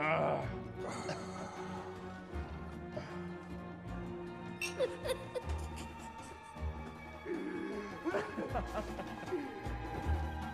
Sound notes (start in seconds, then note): 4.6 chuckling